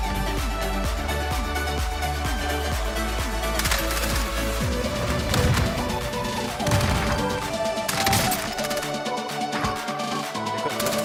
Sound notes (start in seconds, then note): 5.5 grenades exploding; 8.0 gun firing